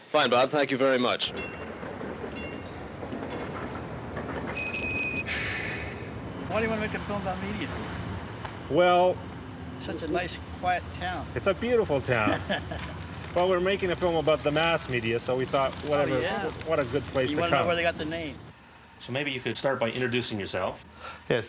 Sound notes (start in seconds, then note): 2.5 tram clanging; 5.0 tram squealing